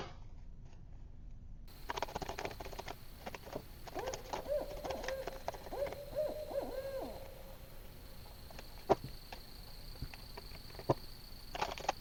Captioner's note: night tones and owl hoots